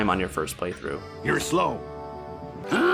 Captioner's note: Voice from hit cartoon show Flapjack